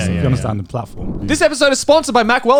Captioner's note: affirmative murmuring